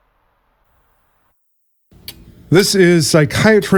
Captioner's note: ticking clock